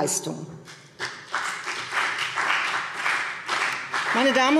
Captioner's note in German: Beifall CDU und vereinzelt BÜNDNIS 90/DIE GRÜNEN